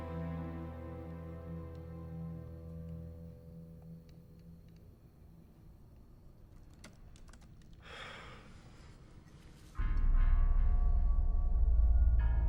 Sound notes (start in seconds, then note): 4.8 keyboard typing; 9.8 eerie music